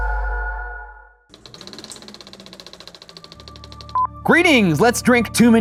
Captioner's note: film reel spins